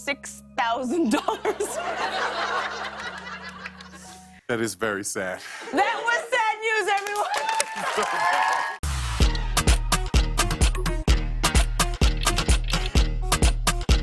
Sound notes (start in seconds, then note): 1.1 laughter; 6.8 cheers and applause